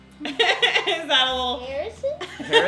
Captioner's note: laughs